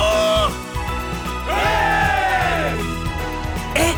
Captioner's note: cheers